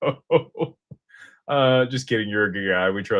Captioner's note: laughter